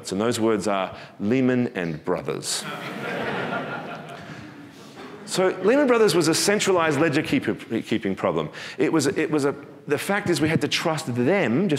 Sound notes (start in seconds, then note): 2.6 audience laughing